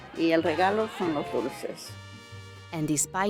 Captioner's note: speaking Spanish